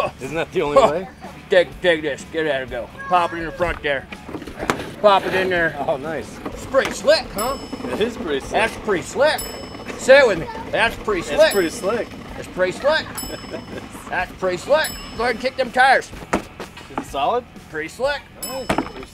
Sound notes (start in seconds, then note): 16.2 kicks; 18.4 ding